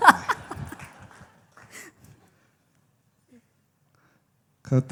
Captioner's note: big laughter